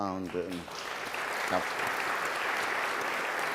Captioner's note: applause